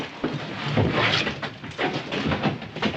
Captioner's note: none